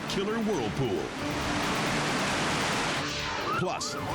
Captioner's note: rapids thundering